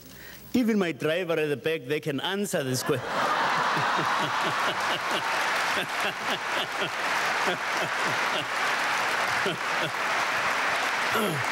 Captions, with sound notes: Even my driver at the back there can answer this question." (audience applauding) (Tutu chuckling)